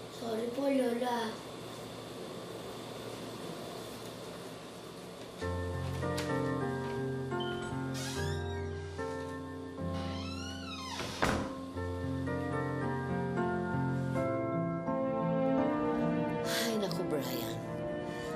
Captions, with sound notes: Sorry, Grandma. [melancholy music playing] [door opens] [door closes] My goodness, Bryan.